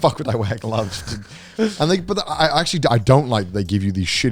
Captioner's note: chuckles